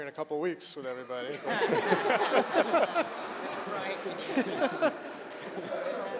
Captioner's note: laughter